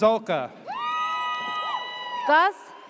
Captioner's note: audience cheers